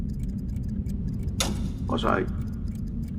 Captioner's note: clock ticking